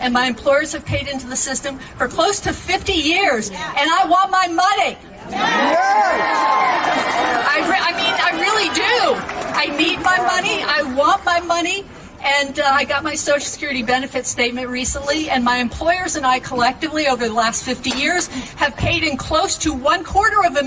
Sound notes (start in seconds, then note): 10.1 cheering